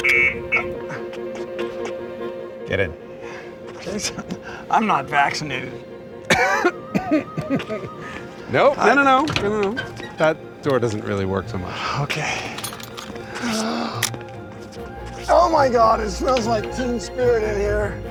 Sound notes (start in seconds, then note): 6.2 coughs in Randy's face